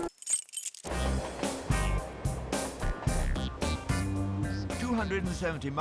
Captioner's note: keyring jingles; train clacking; upbeat music